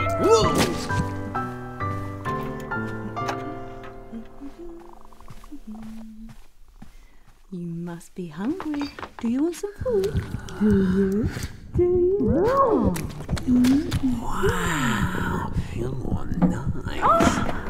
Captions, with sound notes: - Woah! (cat meows) (humming) - You must be hungry. Do you want some food? (muffled chewing) - Wow, ooh, nice. - Oh!